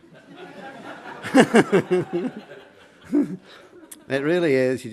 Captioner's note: laughter